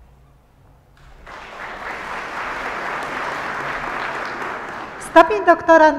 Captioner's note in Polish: oklaski